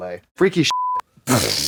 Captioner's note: beep; Katya splutters